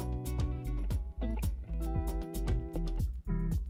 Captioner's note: none